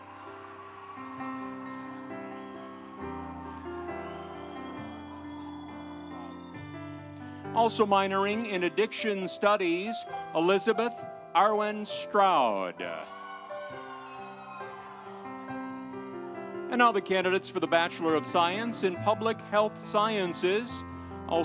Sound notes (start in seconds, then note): 0.0 audience cheering; 0.2 instrumental music; 12.8 audience cheering; 13.1 instrumental music